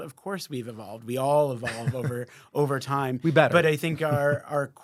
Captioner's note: laughing